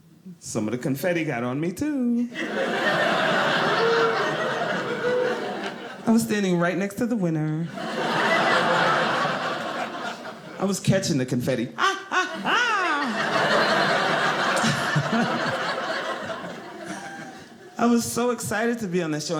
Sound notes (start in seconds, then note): 2.3 audience laughing; 7.7 audience laughing